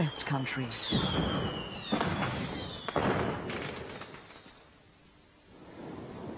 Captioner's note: sound of more firecrackers exploding